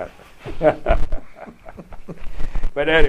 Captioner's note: laughter